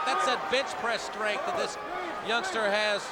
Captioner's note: crowd cheering